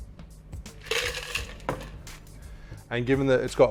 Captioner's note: ice clinks